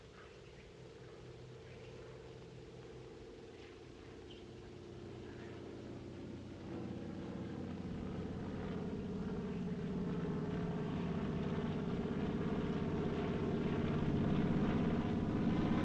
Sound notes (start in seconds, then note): 0.3 airplane In Distance; 8.7 airplane Approaching